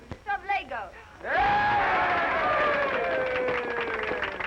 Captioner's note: crowd cheering